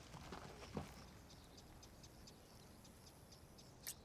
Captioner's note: smooch